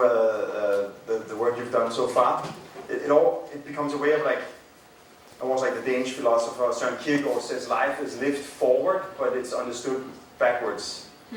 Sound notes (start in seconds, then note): none